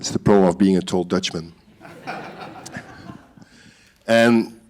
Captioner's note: laughter